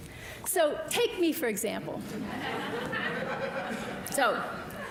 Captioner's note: audience laughing